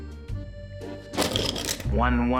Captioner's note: pencils rattle